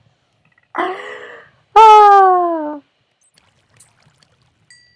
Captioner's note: laugh, sigh